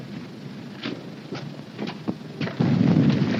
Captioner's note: explosions in distance